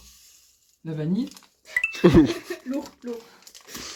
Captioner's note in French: rires